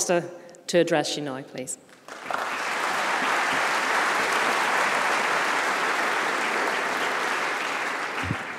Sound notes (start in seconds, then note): 6.0 applause